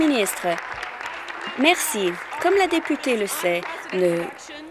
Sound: applause

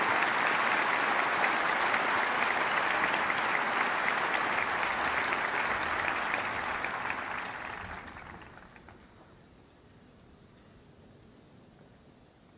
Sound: applause

